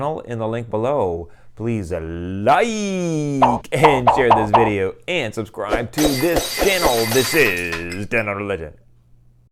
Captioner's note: glass breaking